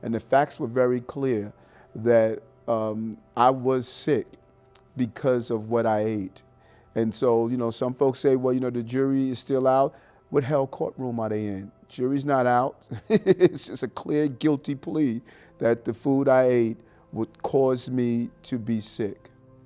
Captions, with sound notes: And the facts were very clear that I was sick because of what I ate. And so some folks say, well the jury is still out. What the hell court room are they in? Jury's not out. (laughing) It's just a clear guilty plea that the food I ate would cause me to be sick.